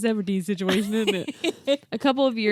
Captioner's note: laughs